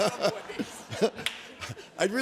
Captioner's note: laughter